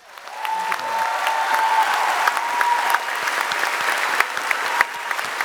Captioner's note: cheers and applause